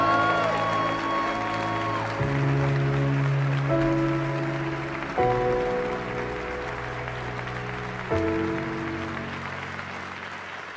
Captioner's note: applause